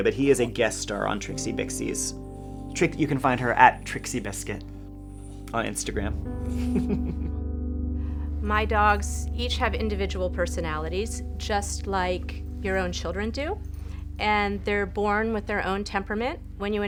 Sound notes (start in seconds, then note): 6.4 chuckles